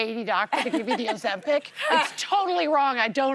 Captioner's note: laughter